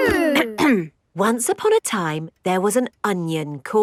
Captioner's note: clears throat